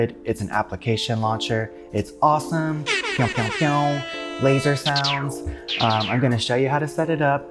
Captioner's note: laser sounds; pew pew pew